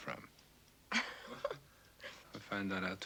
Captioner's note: Rottenmeier laughing